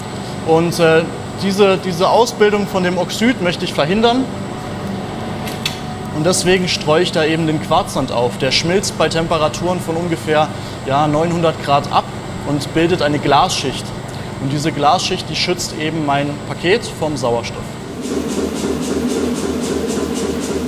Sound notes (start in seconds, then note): 17.9 repeated pumping